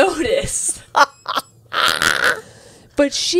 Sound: laughing

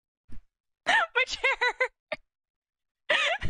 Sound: laughing

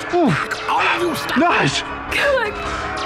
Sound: breathing fresh air again, panting

